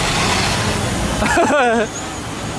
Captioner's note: laugh